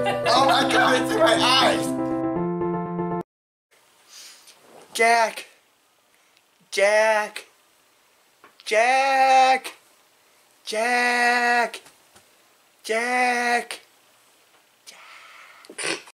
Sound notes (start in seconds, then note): 15.0 whisper